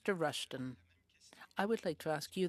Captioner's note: speaking French